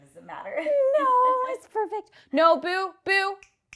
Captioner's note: laughs